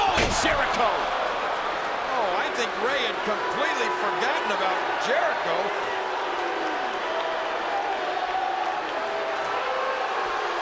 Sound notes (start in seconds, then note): 5.9 crowd boos